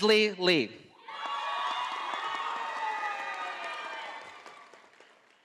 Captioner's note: audience applauding